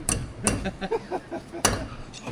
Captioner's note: laughing